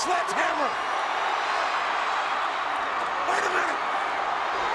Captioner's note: audience cheers